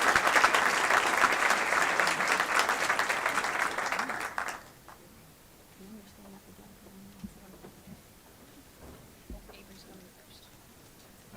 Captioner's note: applause